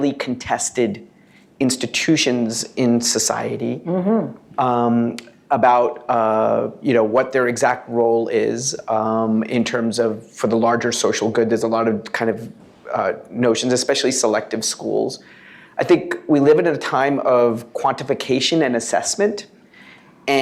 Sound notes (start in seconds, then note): none